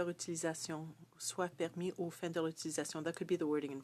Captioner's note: speaking French